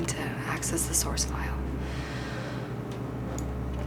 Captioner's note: sighs